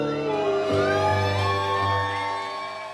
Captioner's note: cheering